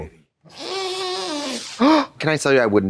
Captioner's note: snorting cocaine